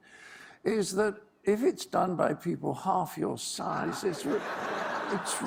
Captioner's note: laughter